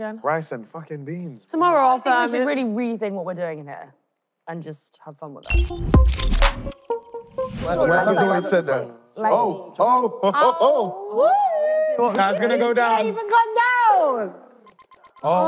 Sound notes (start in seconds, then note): 5.4 upbeat music; 7.9 alarm ringing; 10.4 cheering